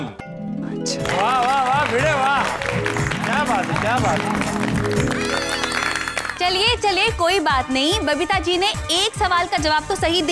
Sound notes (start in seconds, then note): 4.1 applauding